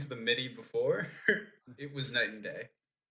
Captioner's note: laughs